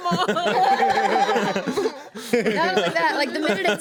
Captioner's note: everyone laughs